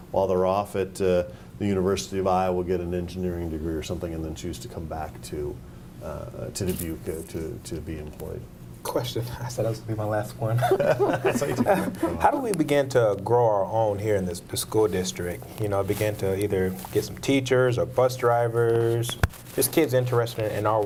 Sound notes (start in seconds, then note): 10.6 group laughing